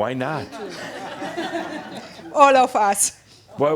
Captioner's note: some laughter